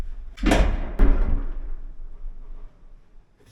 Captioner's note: cyclone thuds